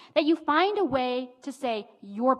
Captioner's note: none